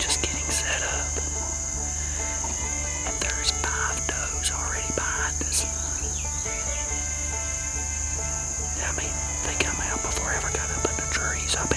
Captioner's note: crickets chirping